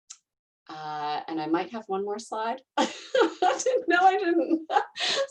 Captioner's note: laughing